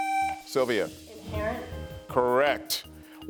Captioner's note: buzzer sounding